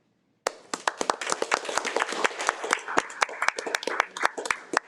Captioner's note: audience applauding